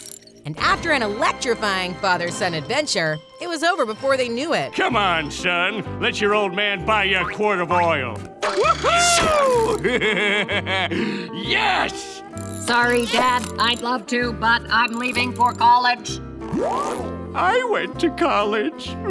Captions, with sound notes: And after an electrifying father-son adventure, it was over before they knew it. Come on, son, let your old man buy you a quart of oil. Whoo-hoo! [laughing] Yes! Sorry, Dad, I'd love to, but I'm leaving for college. I went to college.